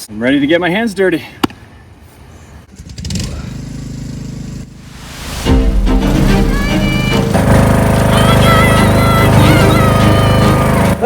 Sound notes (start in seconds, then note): 3.6 loud engine rumbles; 4.8 intense music plays